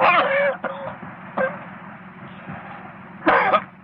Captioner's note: coughing